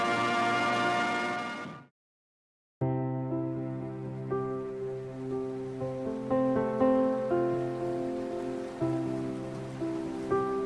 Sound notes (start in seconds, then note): 2.8 soft pensive music; 4.0 waves breaking